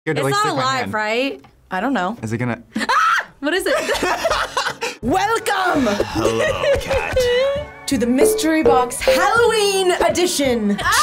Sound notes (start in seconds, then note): 2.9 screams; 3.7 both laugh; 5.7 laughs